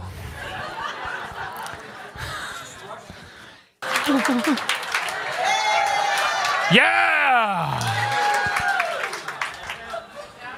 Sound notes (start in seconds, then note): 0.2 awkward Giggle; 3.8 applause